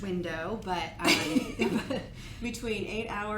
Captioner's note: giggles